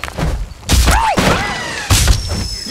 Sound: yelps like a rotting dog

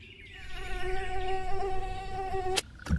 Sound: mosquito buzz

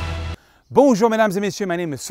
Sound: speaking foreign language

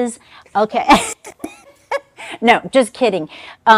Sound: chuckling

